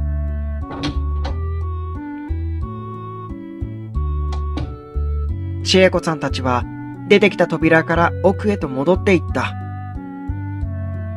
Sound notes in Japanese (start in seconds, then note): 4.3 扉の閉じる音：バタン